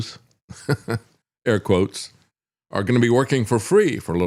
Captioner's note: laughs